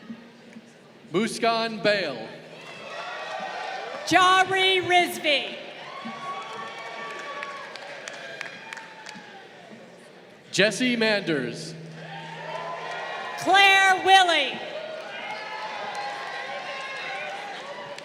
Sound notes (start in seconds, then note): 2.8 crowd cheering; 6.2 crowd cheering; 11.8 crowd cheering